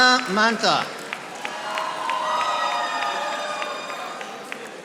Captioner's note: audience applauding